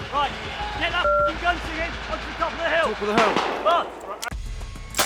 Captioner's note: ‘Gun fire and shouting.’